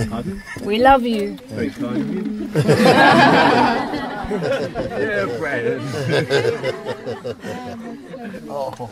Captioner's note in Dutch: gelach